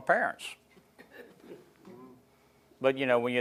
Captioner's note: chuckling